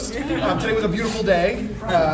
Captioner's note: audience and panel laughs